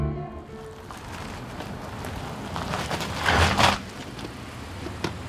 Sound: car rumbling

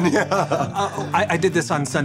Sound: chuckles

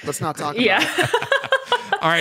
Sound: laughs

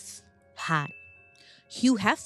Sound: bell rings

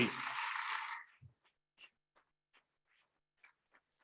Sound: audience clapping

